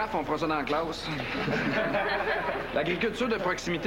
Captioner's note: Rires